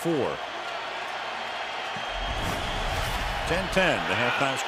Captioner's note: cheering